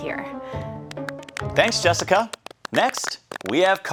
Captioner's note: audience lightly applauding